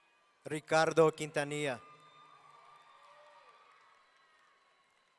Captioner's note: audience cheering